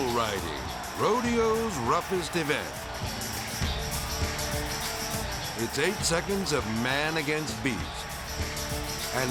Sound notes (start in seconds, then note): 3.0 twangy rock music; 3.1 people cheering; 7.9 twangy rock music